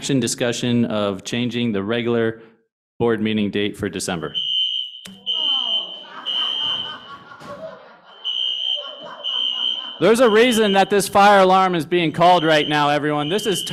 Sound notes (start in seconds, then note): 4.3 fire alarm sounds; 5.6 laughter